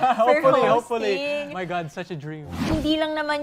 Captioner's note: chuckles